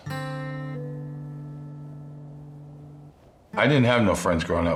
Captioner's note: breeze blowing